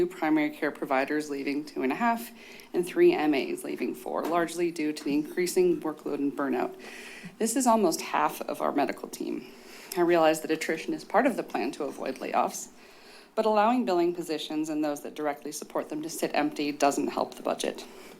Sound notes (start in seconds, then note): none